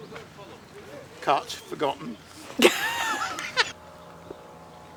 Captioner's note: laughs